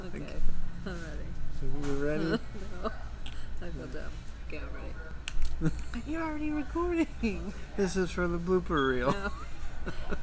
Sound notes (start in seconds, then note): 2.9 giggles